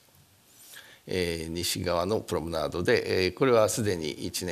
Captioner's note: speaking japanese